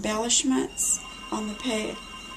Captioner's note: phone ringing